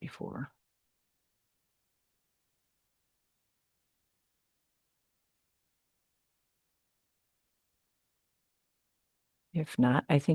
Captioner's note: silence